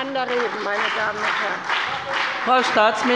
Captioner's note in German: Beifall bei der CDU und dem BÜNDNIS 90/DIE GRÜNEN